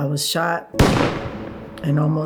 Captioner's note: gun booms